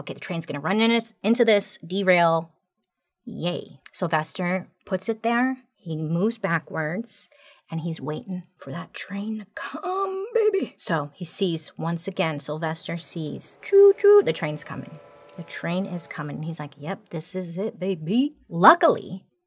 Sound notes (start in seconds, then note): 12.8 train whistling